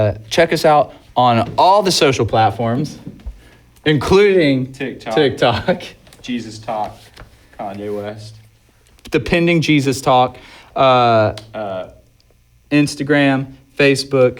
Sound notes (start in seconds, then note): 5.2 laughs